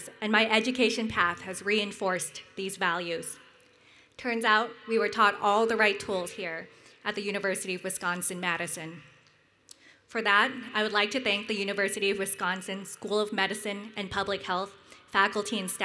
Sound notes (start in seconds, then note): none